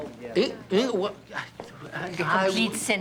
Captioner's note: stammering